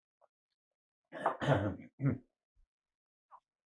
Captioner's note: clears throat